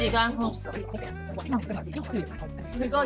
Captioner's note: chewing hard